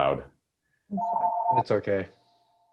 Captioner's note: phone rings